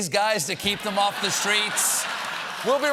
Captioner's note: laughter